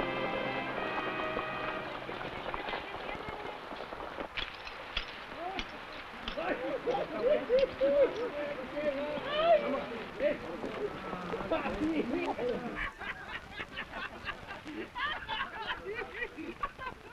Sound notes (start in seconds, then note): 0.2 horse hooves pattering; 5.4 men shouting; 6.5 men laughing